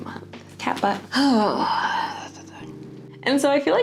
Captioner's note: groan